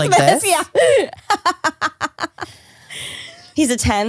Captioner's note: laughs